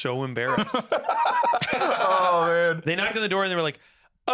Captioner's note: laughing